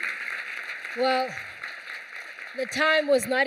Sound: applause

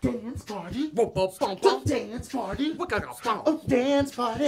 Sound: beatbox

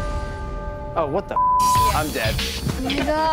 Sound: beep

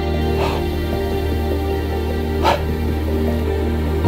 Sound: Bigfoot growls; Bert sighs

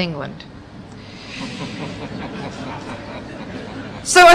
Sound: laughter

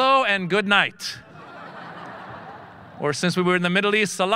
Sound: audience laughing

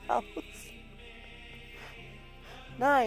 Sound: laughing

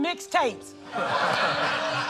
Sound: laughter

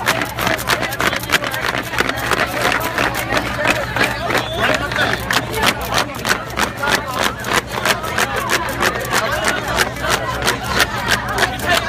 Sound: cheering and fan clapping

